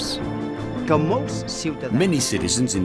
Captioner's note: speaking in foreign